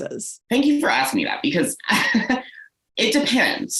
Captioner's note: laughs